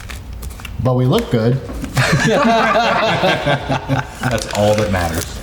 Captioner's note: everyone laughing